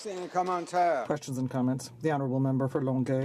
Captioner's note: some Applause